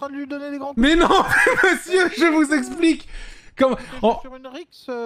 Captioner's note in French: Dona explose de rire